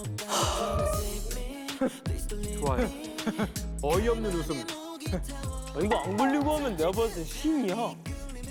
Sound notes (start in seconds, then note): 1.8 heh